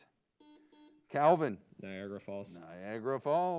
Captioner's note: buzzer beeps